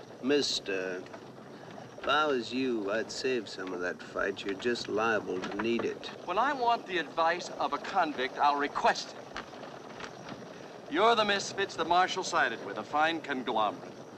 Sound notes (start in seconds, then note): none